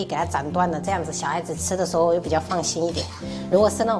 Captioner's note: cough because younger brother